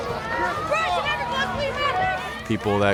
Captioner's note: yelling